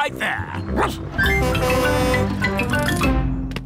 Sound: barks; horn honking

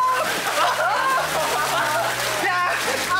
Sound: splash splash

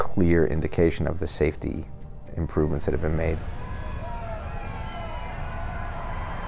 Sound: crowd cheering

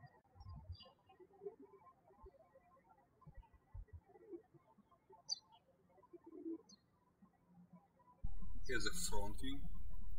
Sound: birds chirping

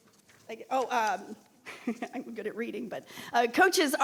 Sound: chuckles

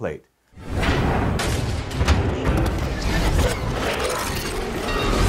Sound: eerie sound

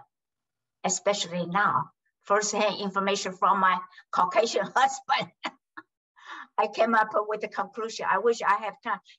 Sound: laughs

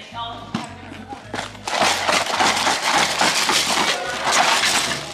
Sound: shaking noises

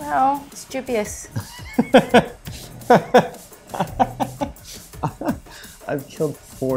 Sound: laughing

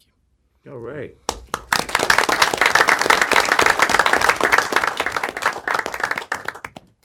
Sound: applause

